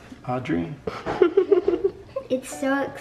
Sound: giggles

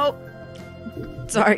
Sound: mic thuds

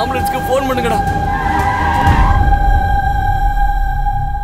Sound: brakes squeal

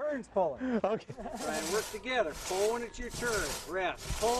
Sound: laughter

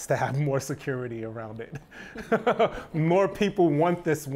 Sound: laughs

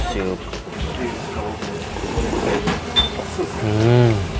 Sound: slurps

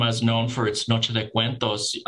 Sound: speaking Native Language

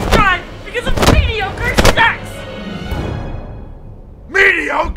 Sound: pillow thudding

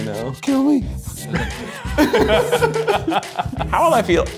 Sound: laughing

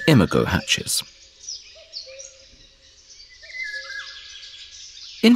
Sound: sounds of nature

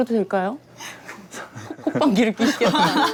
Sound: haha

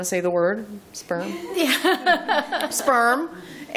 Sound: laughter

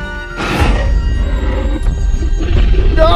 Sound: T-Rex Stomping and Growl Sounds

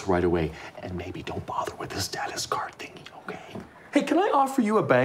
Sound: whispering

